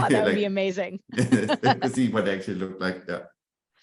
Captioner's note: laughs